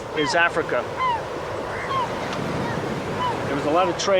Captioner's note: birds cawing